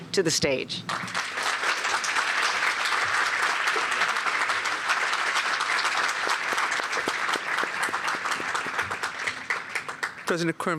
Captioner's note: applause